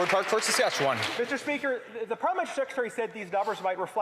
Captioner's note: applause